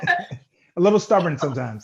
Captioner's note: both laughing